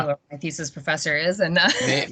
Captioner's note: laughing